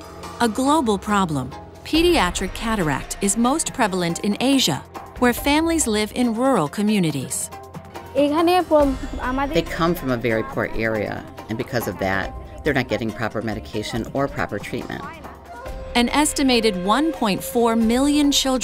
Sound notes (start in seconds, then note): 7.9 woman speaking foreign language